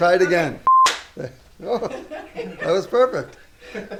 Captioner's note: beep; hands clapping; both laughing